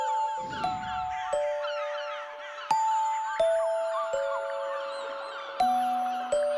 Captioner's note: trinar de aves